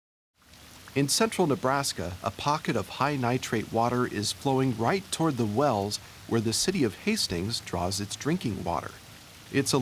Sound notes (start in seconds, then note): 0.7 voiceover